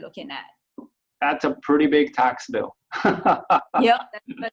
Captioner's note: laughs